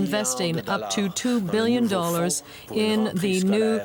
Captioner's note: speaking French